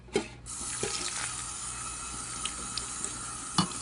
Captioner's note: water splashing